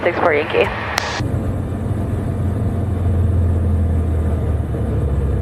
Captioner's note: plane engine whirring